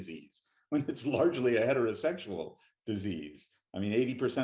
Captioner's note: chuckling